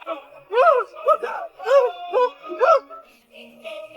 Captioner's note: grunt, grunt